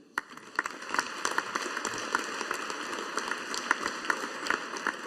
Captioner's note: audience applauding